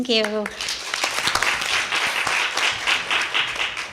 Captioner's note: crowd applauds